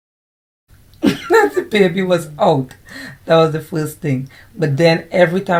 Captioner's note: laughs